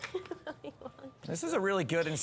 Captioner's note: laughs